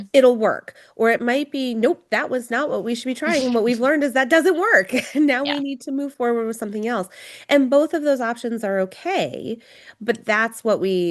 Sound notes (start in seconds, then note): 3.2 laughs; 5.2 laughs